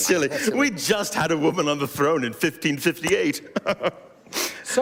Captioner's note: chuckling